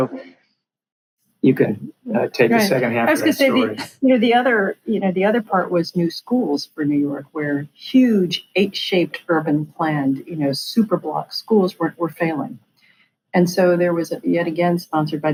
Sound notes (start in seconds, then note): 13.0 laughs